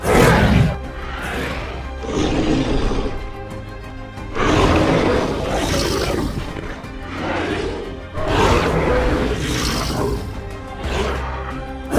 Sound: Carnotaurus Sounds

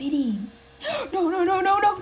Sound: le gasp

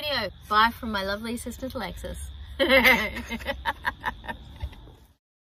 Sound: both chuckle

